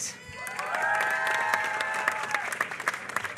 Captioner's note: applause